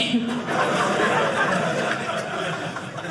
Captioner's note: audience laughing